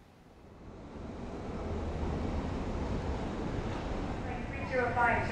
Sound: traffic; airport chatter

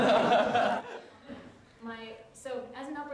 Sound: laughter

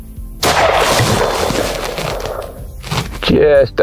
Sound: gun shot

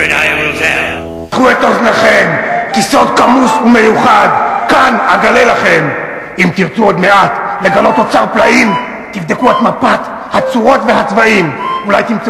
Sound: Hebrew dialogue

